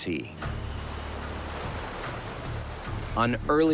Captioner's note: waves